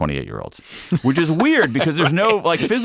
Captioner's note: laughing